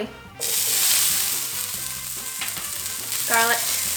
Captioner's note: sizzling sound